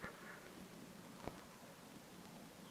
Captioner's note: none